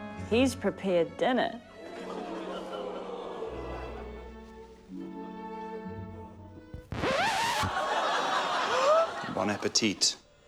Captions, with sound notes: He's prepared dinner. (LAUGHTER) (RECORD SCRATCH) (LAUGHTER) (GASPS) - Bon appetit.